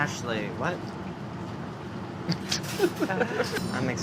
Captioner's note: laughs